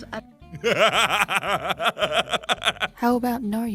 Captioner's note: laughter